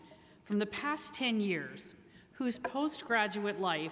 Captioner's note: none